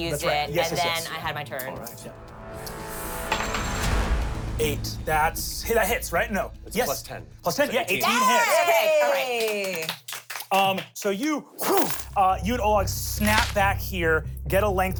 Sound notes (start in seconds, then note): 7.8 everyone cheers